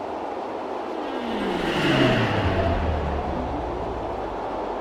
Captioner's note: aircraft whirring